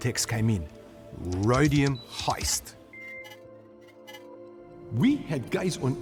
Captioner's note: fingers tapping